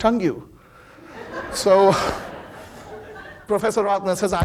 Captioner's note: audience laughing